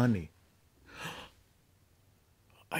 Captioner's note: gasps